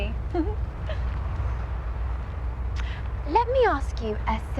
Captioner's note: giggles